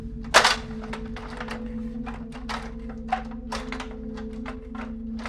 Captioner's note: metal clattering